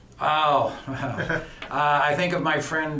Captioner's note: chuckles